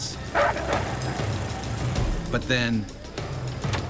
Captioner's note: barking